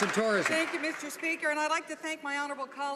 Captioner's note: some Applause